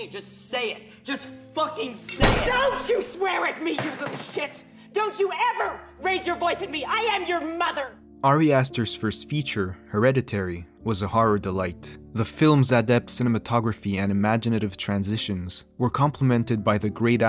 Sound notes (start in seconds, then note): 3.7 bangs table